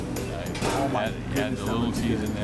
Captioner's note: clank